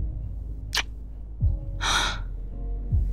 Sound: kiss

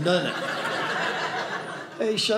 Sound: audience laughing

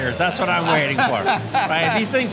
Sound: laughing

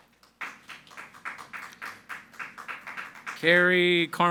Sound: audience applauding

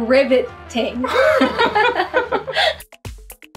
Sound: laughter

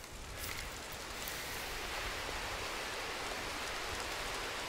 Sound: wind blowing

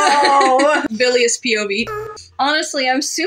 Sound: laugh; moan

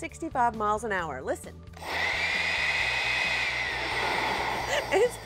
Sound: whirring loudly

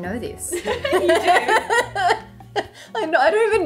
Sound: laughing

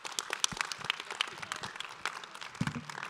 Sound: audience applause

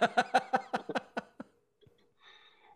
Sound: laughter

